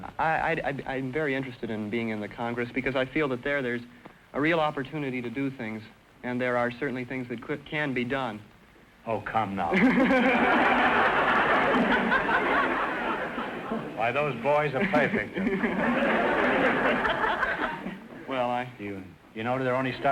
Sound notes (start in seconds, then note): 9.7 laughing; 9.7 audience laughter